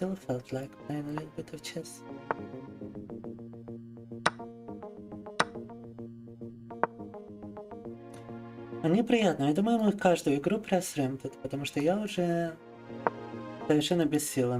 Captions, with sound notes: still felt like playing a little bit of chess. (upbeat music) (speaking in foreign language)